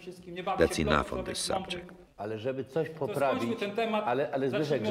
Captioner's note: speaking Polish